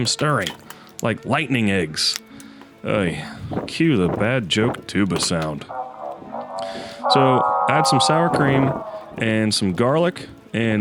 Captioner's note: bad joke tuba sound